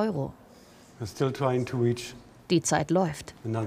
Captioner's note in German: Auktionator spricht englisch